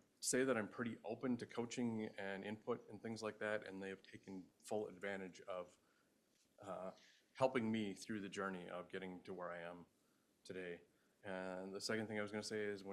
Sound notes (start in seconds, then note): none